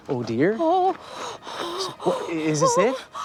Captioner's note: gasping